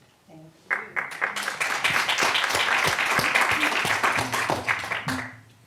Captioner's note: audience applauding